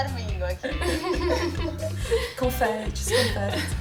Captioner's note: laughs